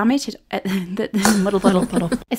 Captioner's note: laughs